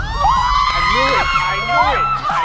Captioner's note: woosh; contestants cheering